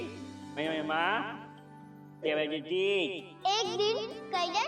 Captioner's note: Golu talking gibberish